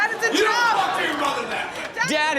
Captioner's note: yelling